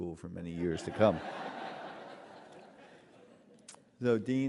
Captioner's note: laughter